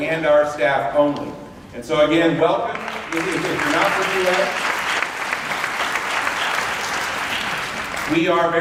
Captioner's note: applause